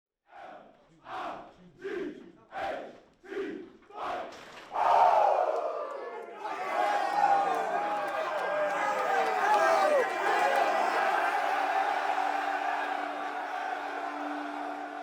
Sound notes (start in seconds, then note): 0.0 football team chanting; 6.6 team cheering